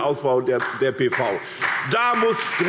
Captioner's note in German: Beifall SPD